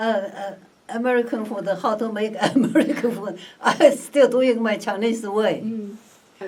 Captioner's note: laughs